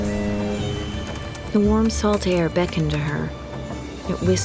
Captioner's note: boat horn; typing